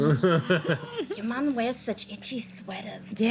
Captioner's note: laughing